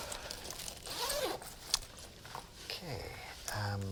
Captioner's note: bag unzips